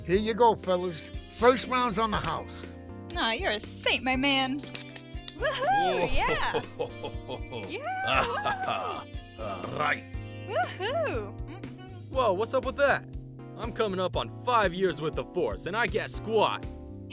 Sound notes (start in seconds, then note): 4.3 bottles open